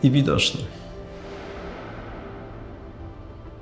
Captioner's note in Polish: odgłos płonącego ognia